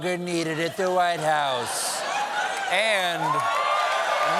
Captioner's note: cheers and applause; laughter